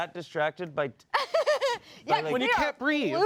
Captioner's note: laughs